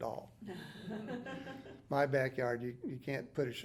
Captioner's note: interviewer laughing